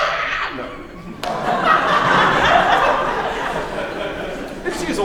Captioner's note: laughter